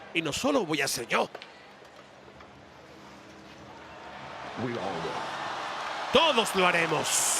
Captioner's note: applause